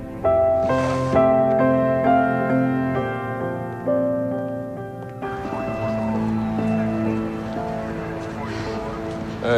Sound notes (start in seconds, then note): 5.2 police car siren